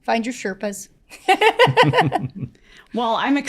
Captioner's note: panelists laughing